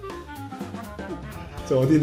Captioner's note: making nervous noises